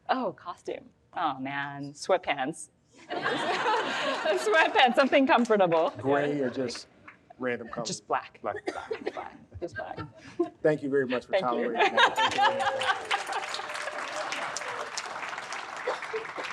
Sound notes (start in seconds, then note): 3.1 audience laughs; 11.6 laughs; 12.2 audience applauds